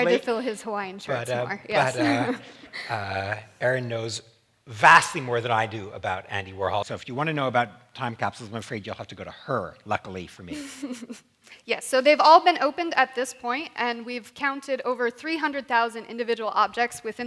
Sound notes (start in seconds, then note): 10.5 chuckling